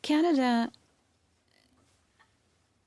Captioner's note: speaking French